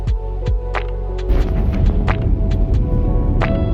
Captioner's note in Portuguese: none